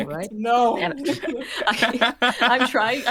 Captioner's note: laughter